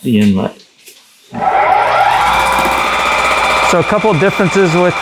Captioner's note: machine whirring